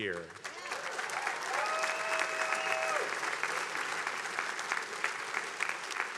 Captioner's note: attendees cheering and applauding